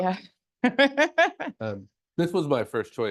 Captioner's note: laughs